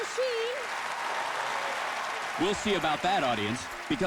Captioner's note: cheers and applause